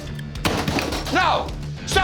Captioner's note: fry basket clattering